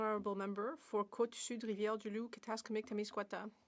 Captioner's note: speaking French